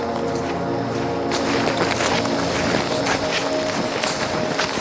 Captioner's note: feet clacks